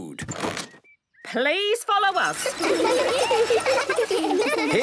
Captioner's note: laughter